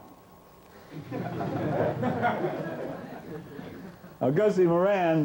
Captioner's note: laughing